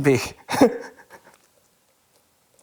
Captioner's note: chuckles